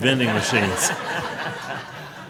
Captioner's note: laughing